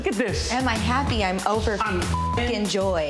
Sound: beep

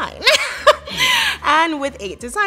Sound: laughs

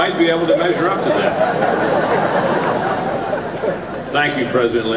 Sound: more audience laughter

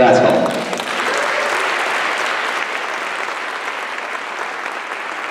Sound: applause

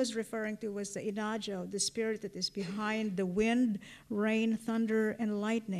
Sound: non-english

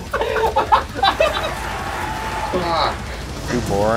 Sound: laughter; crowd cheering

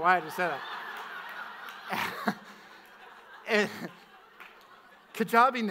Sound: audience laughs

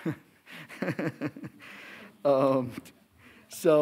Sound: laughing

